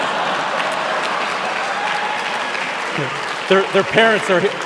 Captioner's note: cheering